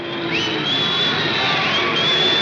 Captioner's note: booing continues